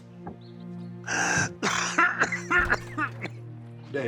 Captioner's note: rufus gasps and coughs